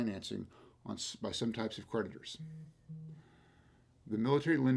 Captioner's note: phone vibrates